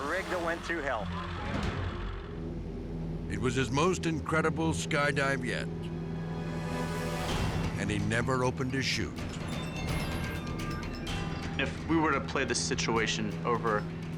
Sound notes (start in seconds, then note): 2.4 plane humming; 5.9 dramatic music; 5.9 plane humming; 9.6 edgy dramatic music